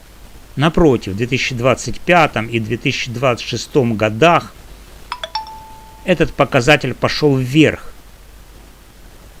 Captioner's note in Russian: колокольчик